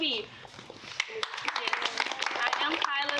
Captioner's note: applause